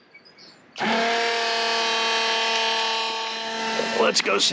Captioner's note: macerator pump swirling sound